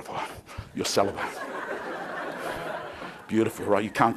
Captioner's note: crowd laughing